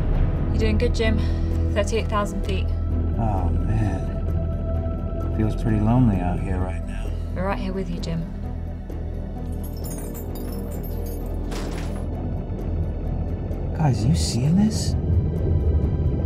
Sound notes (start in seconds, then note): 9.3 chains clanking; 9.4 ominous music